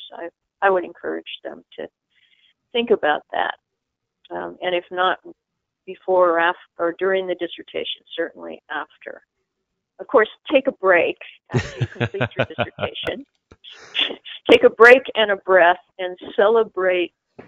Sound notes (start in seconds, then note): 11.5 guy laughs